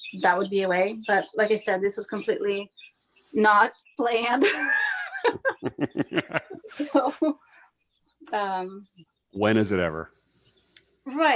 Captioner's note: laughs